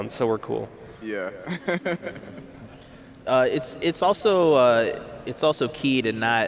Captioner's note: laughs